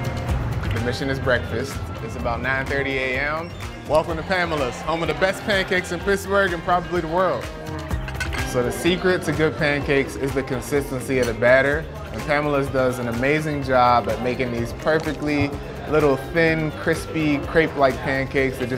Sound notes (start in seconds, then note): 7.9 plates clink; 8.7 light background chatter